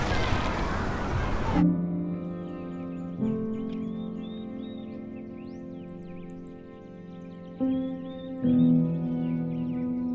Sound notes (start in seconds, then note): 1.6 birds chirping; 1.6 soft orchestral music